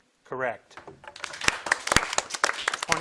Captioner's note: audience applauding